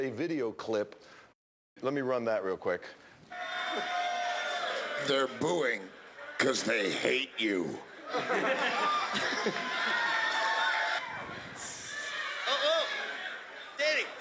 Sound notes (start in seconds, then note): 7.8 laughs